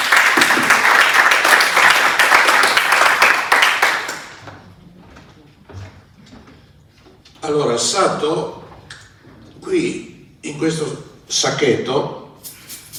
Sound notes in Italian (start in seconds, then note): 2.2 Applauso